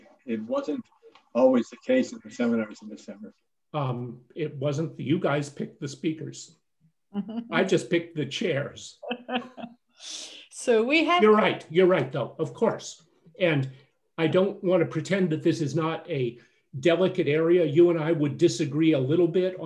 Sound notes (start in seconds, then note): 9.0 laughs